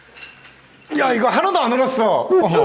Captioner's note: Sarcastic